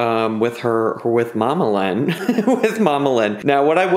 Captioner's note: laughs